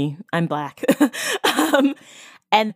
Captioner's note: laughs